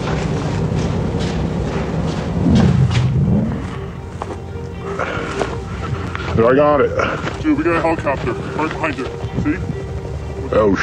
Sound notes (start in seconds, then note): 6.3 deep Voice; 10.7 deep Voice